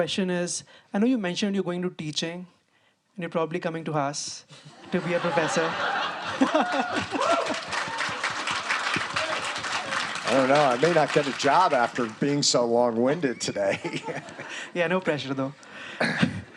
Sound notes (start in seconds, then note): 4.7 students laughing; 5.9 students applauding